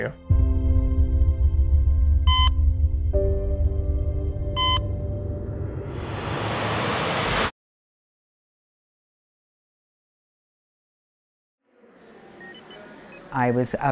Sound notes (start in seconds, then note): 2.4 dramatic music continues; 2.4 monitor beeping; 5.3 air whooshing; 12.1 monitor beeping